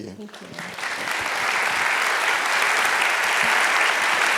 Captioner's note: audience applauds